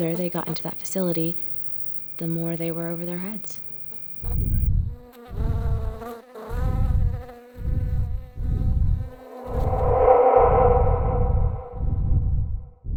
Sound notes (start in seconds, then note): 5.4 fly buzzing; 5.4 tense, dramatic music